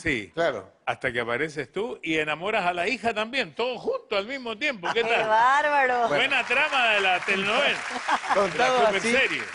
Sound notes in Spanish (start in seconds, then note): 4.8 Risas; 6.1 Aplausos